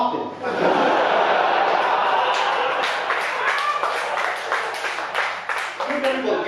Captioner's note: audience laughing and clapping